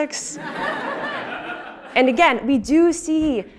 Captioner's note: laugh